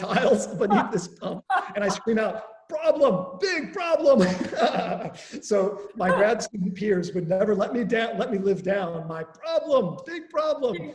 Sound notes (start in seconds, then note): 4.1 chuckles